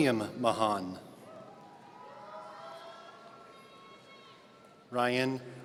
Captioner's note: audience cheering